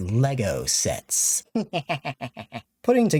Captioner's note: evil laughter